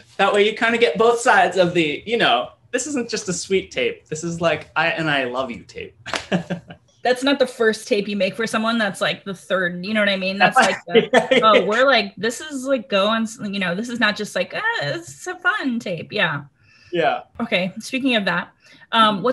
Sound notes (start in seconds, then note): 6.1 laughs; 10.4 Josh laughs